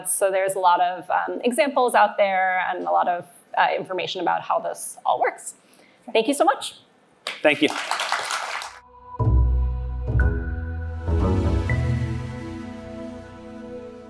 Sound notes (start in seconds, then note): 7.2 applause; 8.8 audio logo